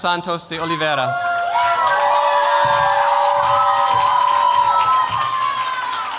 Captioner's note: cheers, applause